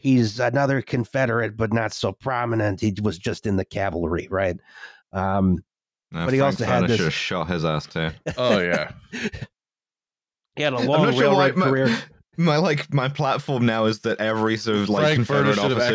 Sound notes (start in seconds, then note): 7.9 laughs